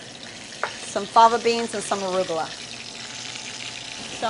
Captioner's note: sizzling